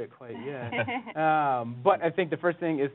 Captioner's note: laughs